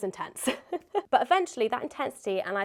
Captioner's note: laughs